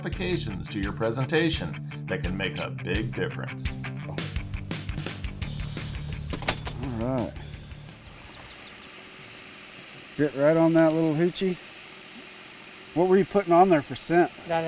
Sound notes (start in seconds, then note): 6.2 net rattles; 7.5 boat engine idling